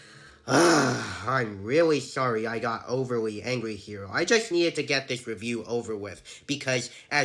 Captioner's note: frustrated sigh